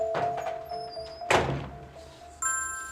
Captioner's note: door closing; phone beeps